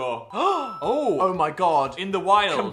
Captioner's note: Dan gasping